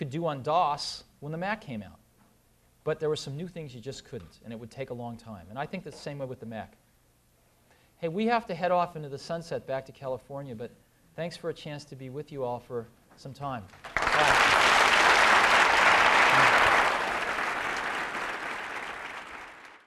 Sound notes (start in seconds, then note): 13.6 applause